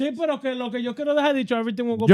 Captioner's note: speaking In Foreign Language